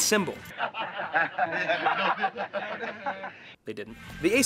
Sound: laughing

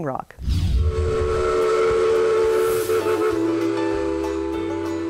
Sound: whistle blowing

